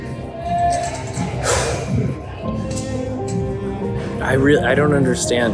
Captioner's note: exhales